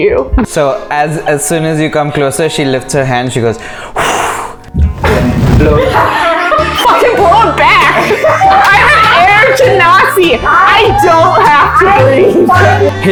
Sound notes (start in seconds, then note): 3.7 blows; 5.8 laughter; 12.2 laughter